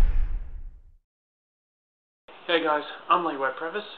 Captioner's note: loud thud